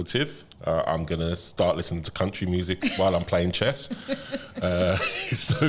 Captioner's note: laughter